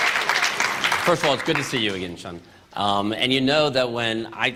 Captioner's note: applause